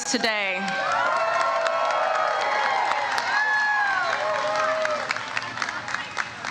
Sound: audience cheers and applauds

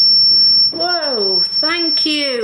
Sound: metre beeps

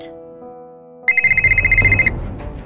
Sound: phone rings

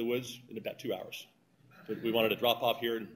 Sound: laughter

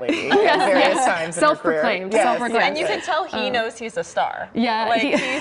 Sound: laughter

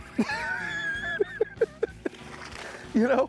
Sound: cackling

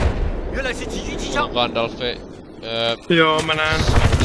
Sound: imitating chinese

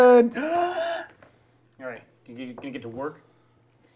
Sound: gasping

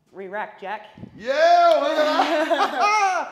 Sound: laugh

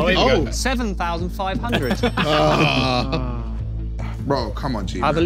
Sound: laughing

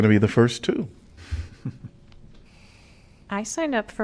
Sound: laughter

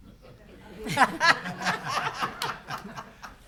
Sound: all laughing

